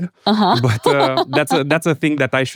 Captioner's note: laughs